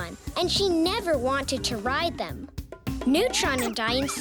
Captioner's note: woman screams